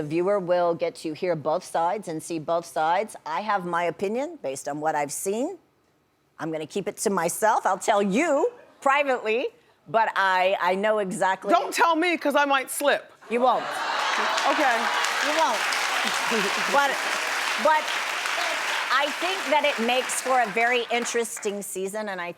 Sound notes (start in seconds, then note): 13.4 audience laughs; 16.0 Wendy laughs; 16.9 audience applauds